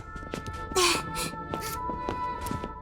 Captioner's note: sniffles; laughs